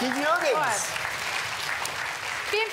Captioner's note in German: Applaus